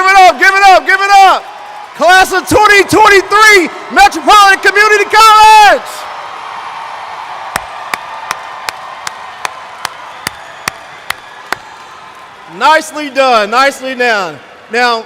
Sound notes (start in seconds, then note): 0.0 applause/cheers; 6.2 cheers